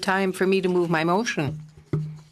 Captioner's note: speaking FRENCH